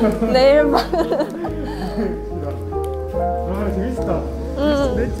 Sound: haha

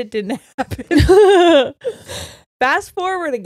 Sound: both laughing

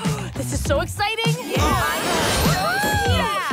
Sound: all cheer

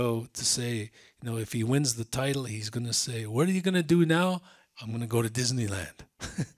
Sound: he laughs

